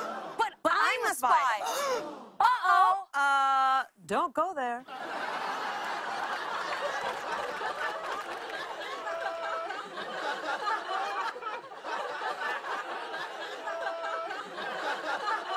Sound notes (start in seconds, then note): 5.3 laughter; 12.0 laughter continues